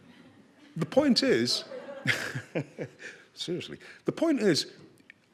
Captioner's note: chuckles